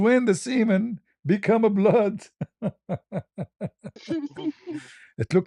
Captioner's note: ketawa